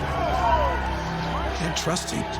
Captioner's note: crowds cheering